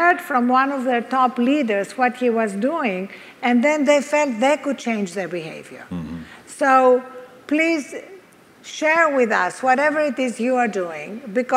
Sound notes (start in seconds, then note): none